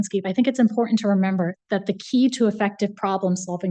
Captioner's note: none